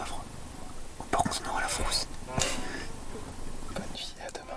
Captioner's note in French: rires